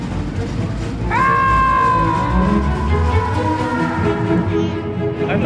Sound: music picks up; screams devolve into echoes

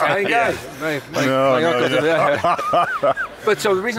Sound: laughter

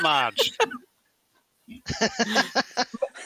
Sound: laughing

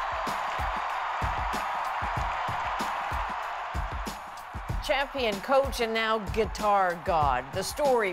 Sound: cheers and Applause

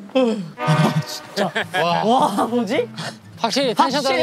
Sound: yawning for real

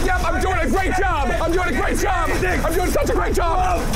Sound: screaming

